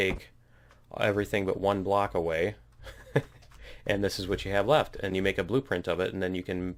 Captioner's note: laughs